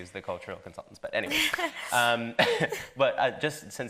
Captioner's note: laughs